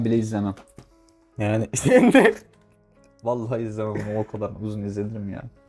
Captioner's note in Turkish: kahkaha